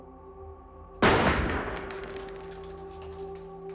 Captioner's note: gun fires